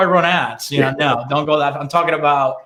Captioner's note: laughing